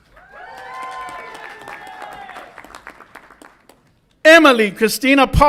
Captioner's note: audience applauds and cheers